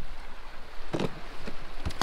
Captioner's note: splash